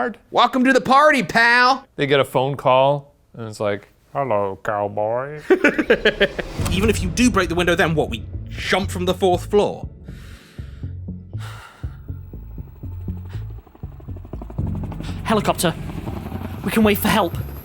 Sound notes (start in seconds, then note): 5.4 laughs; 9.9 exhales; 13.4 helicopter blades whirring in the distance